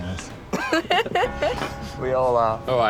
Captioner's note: woman laughs